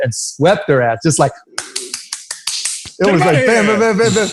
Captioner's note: claps